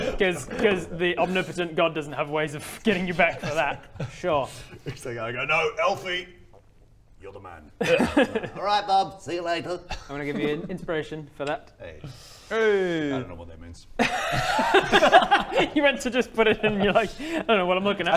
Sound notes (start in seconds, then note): 14.0 laughs